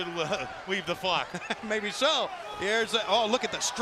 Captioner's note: laugh